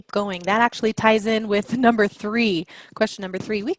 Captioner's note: laugh